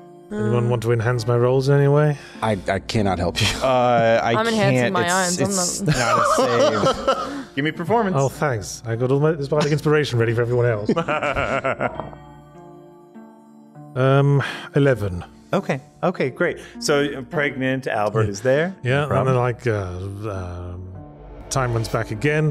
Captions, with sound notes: - Anyone want to enhance my roles anyway? - I cannot help you. - I’m enhancing my own. - Give me a performance. - Oh, thanks. I got all my inspiration ready for everyone else. [Laughs] - 11. - Okay, okay, great. So pregnant Albert is there. - Yeah, I'm like time runs back again.